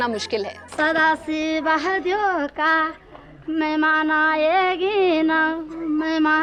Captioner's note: regional language